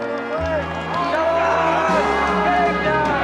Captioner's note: raucous cheering